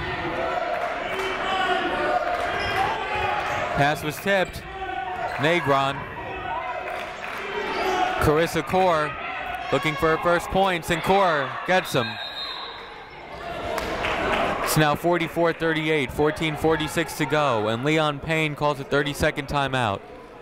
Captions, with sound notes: (people shouting in the crowd) Pass was tipped. Negron. Karissa Core looking for her first points, and Core gets 'em. (whistle tweeting) it's now 44-38. 14:46 to go, and Leon Payne called a 30 second time out.